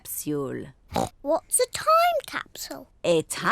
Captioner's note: oinks